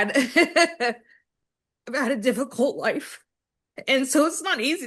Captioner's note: laughs